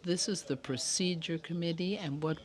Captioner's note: speaking French